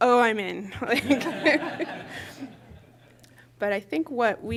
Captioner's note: laughter